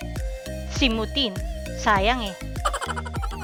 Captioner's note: laughing